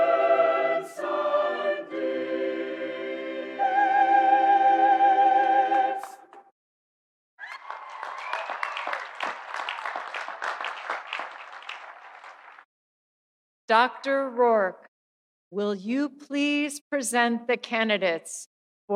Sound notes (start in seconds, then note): 7.4 audience cheering; 7.4 audience applauding